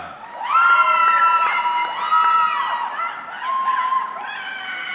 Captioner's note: audience cheering